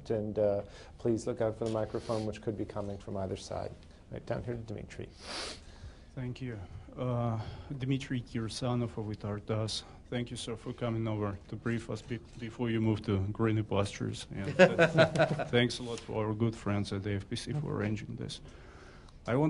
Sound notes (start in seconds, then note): 14.4 laughter